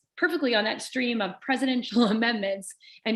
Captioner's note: laughter